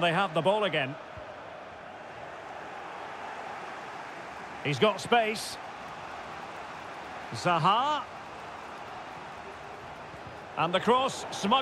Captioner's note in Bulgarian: Ръкопляскания